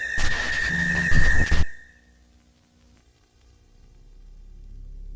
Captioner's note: static hissing